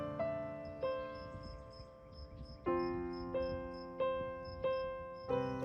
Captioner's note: crickets chirping